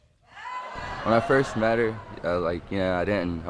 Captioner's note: audience gasp